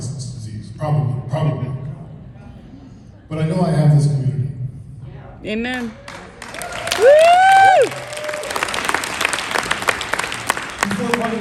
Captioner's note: applause